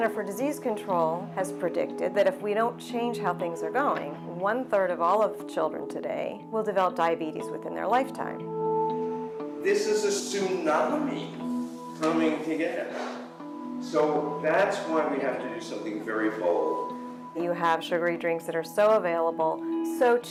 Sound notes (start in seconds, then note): 0.3 voiceover; 10.9 voiceover; 17.8 voiceover